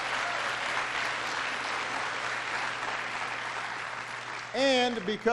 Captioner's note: applause